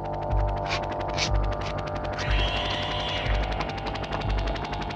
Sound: helicopter blades whirring

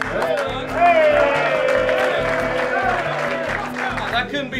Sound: cheering and clapping

